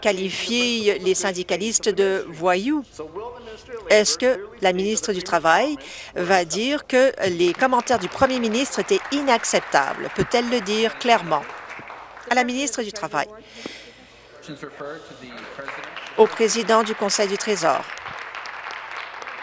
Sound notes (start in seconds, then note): 11.4 applause